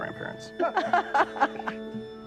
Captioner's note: laugh